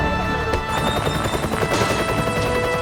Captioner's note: helicopter